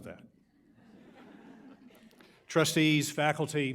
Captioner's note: audience laughs